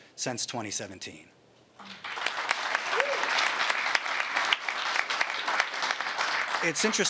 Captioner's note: applause